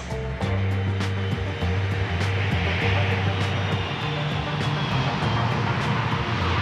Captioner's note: lively music; airplane engine roaring